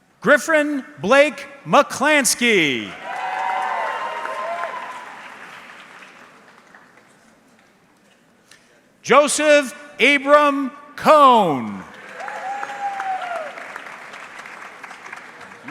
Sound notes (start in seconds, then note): 2.8 audience cheering; 11.4 audience clapping